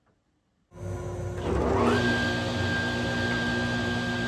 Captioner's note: table saw starts up